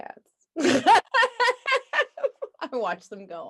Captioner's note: both laughing